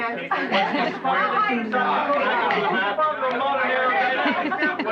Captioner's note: chattering